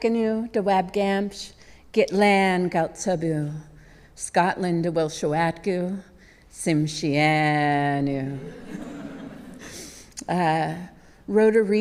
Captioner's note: speaking native language